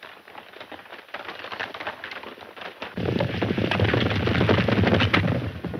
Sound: horses galloping

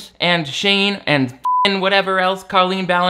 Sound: beep

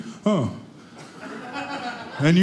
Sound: audience laughing

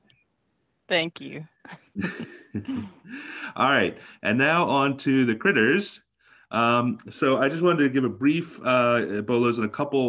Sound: chuckle

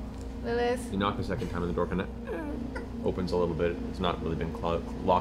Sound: creaks

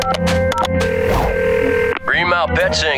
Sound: ringing

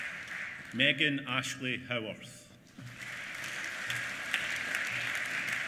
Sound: applause

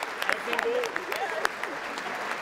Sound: applause

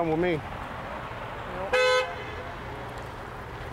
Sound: horn honking

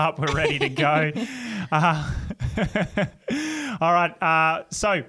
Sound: laugh

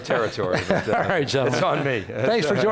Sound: laughs

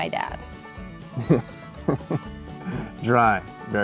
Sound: laughs

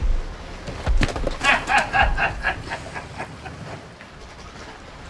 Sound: someone laughing

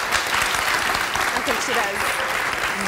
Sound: audience claps

